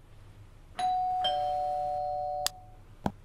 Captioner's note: doorbell rings